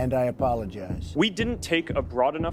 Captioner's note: soundbite of archived recording